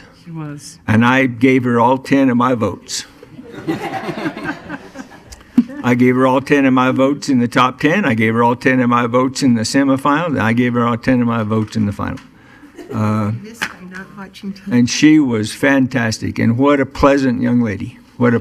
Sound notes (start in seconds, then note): 3.2 laughing